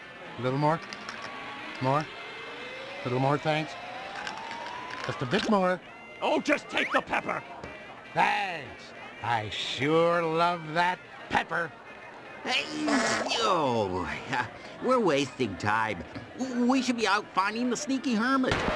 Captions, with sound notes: Little more. More. Little more, thanks. Just a bit more. Ohh, JUST TAKE THE PEPPER! Thanks. I sure love that pepper. [sneezes and groans] We're wasting time! We should be out finding the Sneaky Hermit!